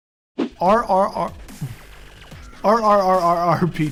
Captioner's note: laughs